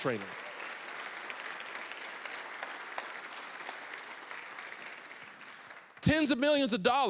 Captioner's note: applause